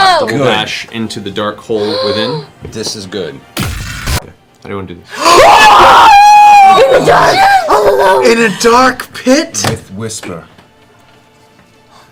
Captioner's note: screams